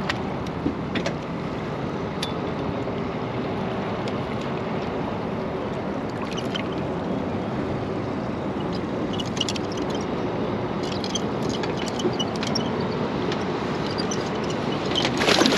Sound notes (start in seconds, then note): 1.8 clattering